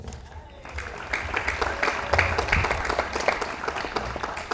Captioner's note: audience applauds